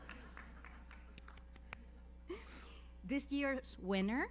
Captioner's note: audience laughs; audience member applauds